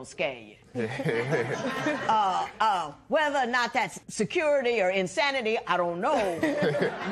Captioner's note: laughter